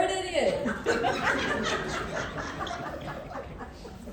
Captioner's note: more Laughter from Crowd